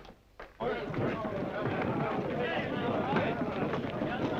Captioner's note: men chattering